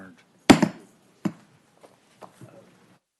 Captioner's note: gavel